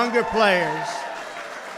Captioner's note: applause